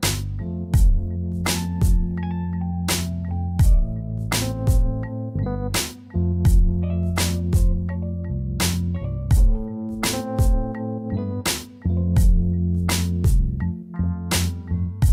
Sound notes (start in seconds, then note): none